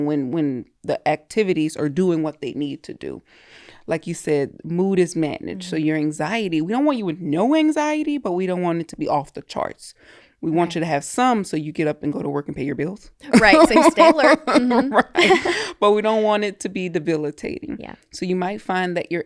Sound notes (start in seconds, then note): 13.3 both laughing